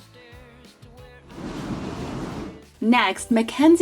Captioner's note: air whooshes